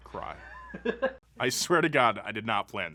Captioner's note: man laughs